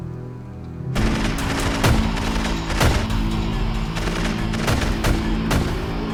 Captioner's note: intense music; gunfire